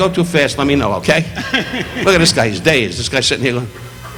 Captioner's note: audience laughing